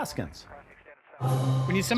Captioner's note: radio chatter; upbeat music